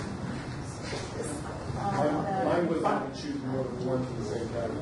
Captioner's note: overlapping chatter